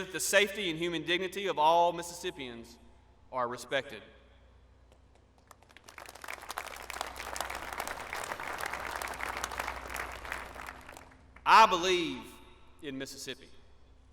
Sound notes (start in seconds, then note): 5.1 applause